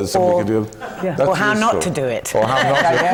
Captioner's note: laughs